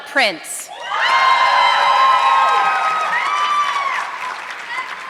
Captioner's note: audience clapping